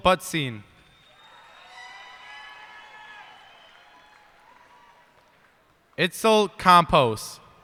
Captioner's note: cheers and applause